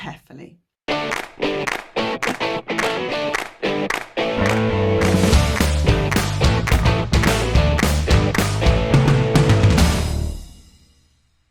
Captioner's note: claps